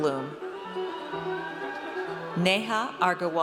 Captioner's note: audience cheers